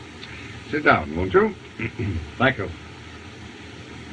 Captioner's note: clears Throat